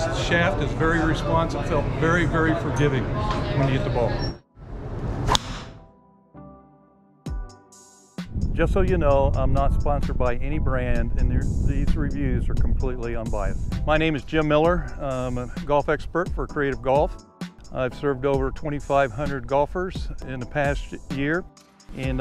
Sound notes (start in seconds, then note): 4.9 air swooshes; 5.2 golf club strikes; 6.4 gentle upbeat music